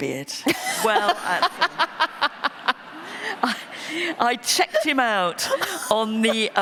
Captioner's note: laughter